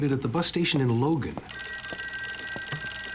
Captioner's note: telephone rings